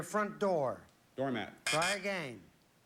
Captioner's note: buzz buzz